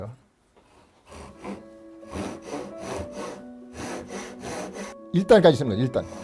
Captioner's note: sawing sound